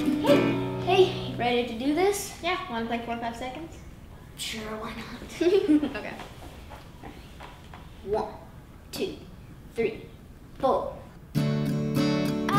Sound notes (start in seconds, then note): 5.3 giggles